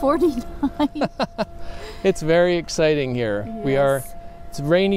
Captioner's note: laughs